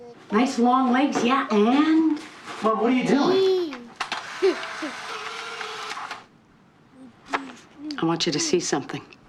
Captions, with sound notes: Nice long legs and... Mom, what are you doing? (BABBLING) I want you to see something.